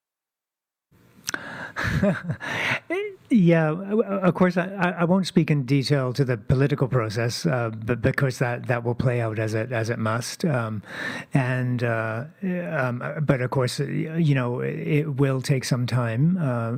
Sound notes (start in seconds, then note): 3.3 laughter